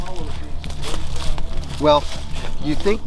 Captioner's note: rustling leaves; intense music